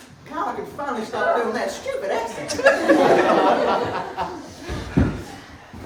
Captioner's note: in a different stupid accent